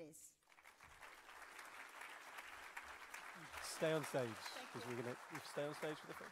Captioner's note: applause